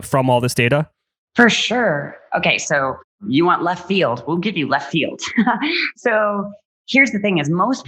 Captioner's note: laughs